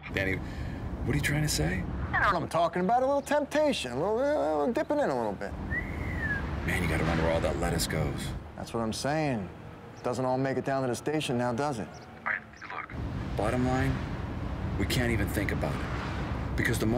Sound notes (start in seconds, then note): 5.6 whistles